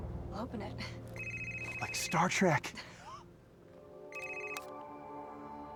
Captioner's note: suspenseful music continues; laughs; gentle music